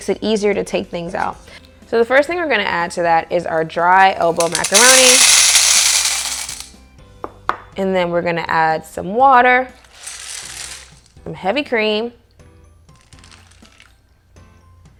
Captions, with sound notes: which makes it easier to take things out. So the first thing we're going to add to that is our dry elbow macaroni. (clattering) and then we're going to add some water... And heavy cream.